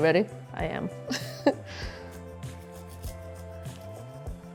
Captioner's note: gentle music; laughing